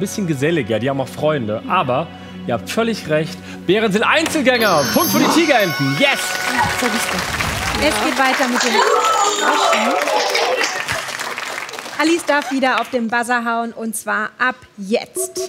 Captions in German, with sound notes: Sie sind geselliger, sie haben Freunde. Ihr habt völlig recht, Bären sind Einzelgänger. Ein Punkt für die Tigerenten. (Jubel) Es geht weiter. Alice darf auf den Buzzer hauen. Und zwar ab jetzt.